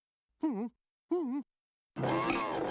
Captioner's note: whimpers